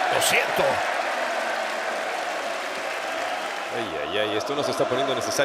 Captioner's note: applause